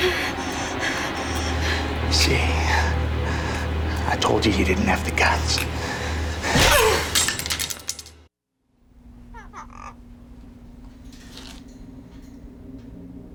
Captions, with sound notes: You see? I told you, you didn't have the guts. (GRUNTS) (KITTY SQUAWKING)